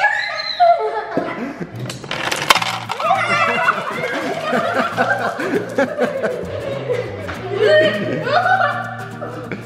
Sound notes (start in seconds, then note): 2.9 kids exclaiming; 4.1 laughing